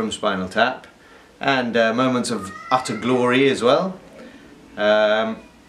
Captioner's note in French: enfant crie dans une chambre apart